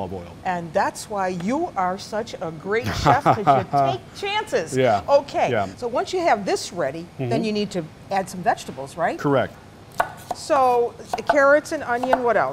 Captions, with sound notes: >> And that's why you are such a great chef-- >> [LAUGHTER] >> Because you take chances. >> Yeah. Yeah. >> OK, so once you have this ready, then you need to add some vegetables, right? >> Correct. >> So the carrots and onion, what else?